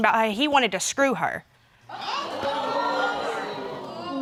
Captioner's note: audience exclaiming